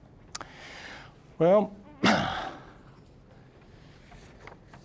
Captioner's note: exhaling